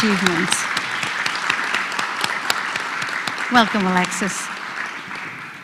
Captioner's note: applause